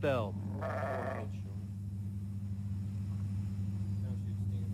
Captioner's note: ewe bleats